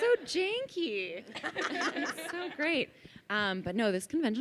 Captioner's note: laughing